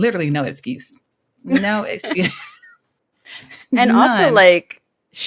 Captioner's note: chuckles